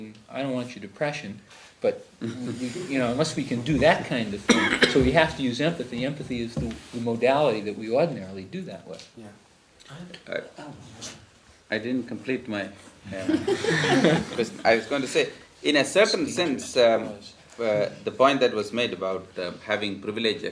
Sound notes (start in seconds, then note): 13.1 laughter